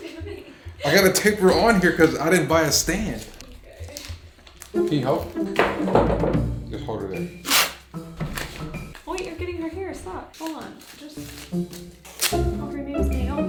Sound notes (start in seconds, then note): 7.4 pulling tape